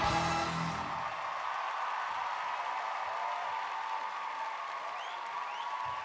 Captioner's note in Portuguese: audience cheering and applauding